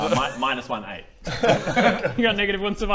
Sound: worried laughs

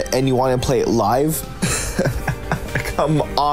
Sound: laughs

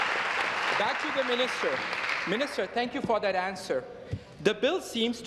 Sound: applause

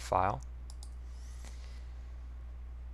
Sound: mouse click

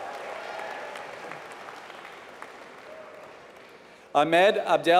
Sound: applause

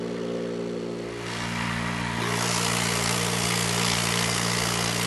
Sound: motor buzzing

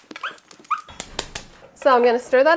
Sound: dog yelping

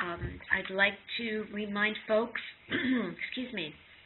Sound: clears throat

